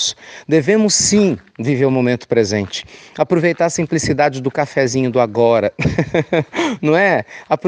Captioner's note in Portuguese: risos